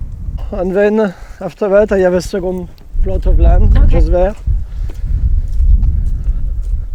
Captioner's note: walking sounds